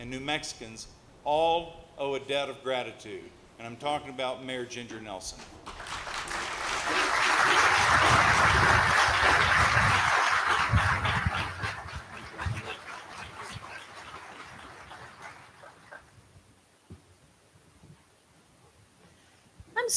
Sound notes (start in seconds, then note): 5.3 applause